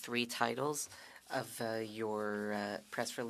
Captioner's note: speaking French